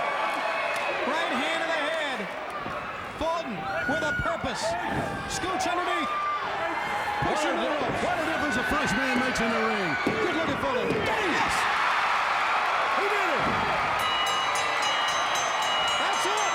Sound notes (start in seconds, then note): 11.5 fans cheering; 13.9 bell dinging